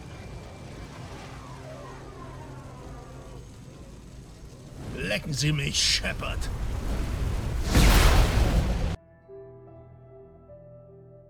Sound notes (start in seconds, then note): 6.5 boom